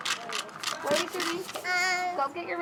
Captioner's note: rattling